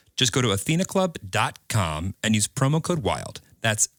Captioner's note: none